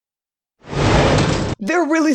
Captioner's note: whoosh